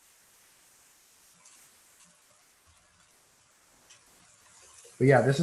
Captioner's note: silence